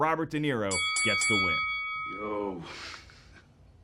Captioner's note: bell dinging